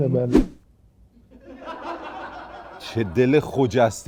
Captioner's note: laughter